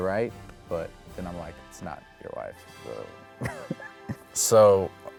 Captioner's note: laughs